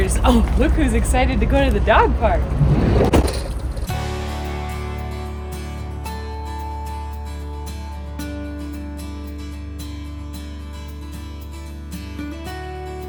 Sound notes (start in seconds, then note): 3.2 door slams; 3.9 lively music